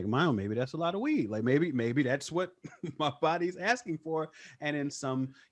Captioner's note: laughs